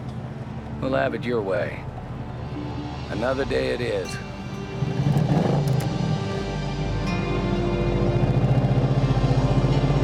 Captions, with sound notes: All right, bubba, we'll have it your way. Another day it is. (engine revs) ■